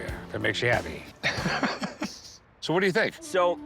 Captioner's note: laughs